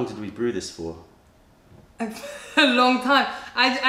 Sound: laughter

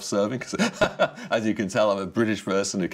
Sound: chuckles

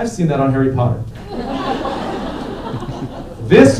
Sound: laughter

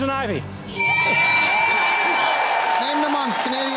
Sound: cheering and applause

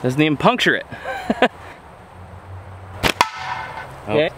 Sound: laughs

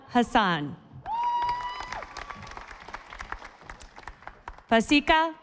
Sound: audience applauding

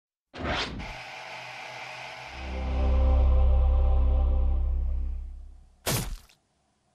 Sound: static emitting; dramatic music; sword slices

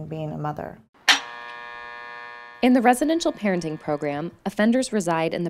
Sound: buzzer, gate opens

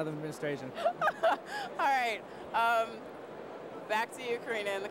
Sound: laughs

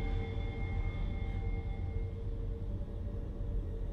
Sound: low rumbling

